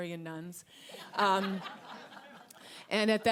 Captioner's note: audience laughing